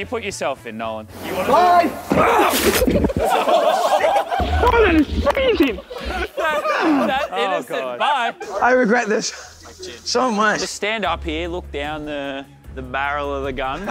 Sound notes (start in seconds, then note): 2.2 contestants laughing; 2.2 groaning; 5.8 contestants laughing